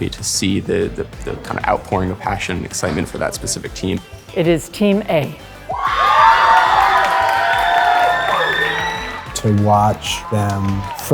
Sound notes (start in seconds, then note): 5.7 students cheering and clapping